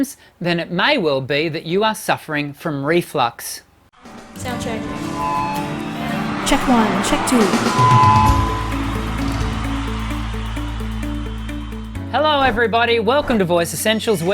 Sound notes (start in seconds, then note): 4.9 cheering; 9.4 upbeat music